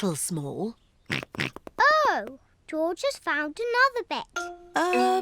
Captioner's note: snorts